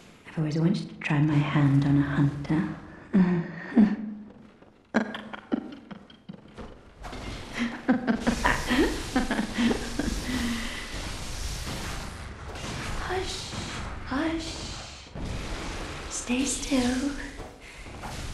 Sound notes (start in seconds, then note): 4.1 sinister laugh